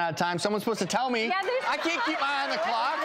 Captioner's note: laughing